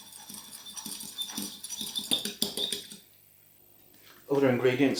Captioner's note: whisk, whisk